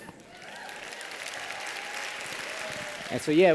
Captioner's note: applause